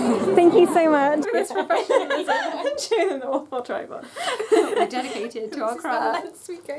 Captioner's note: laughter